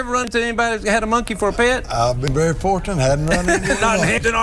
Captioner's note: laughter